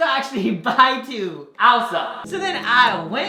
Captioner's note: echoing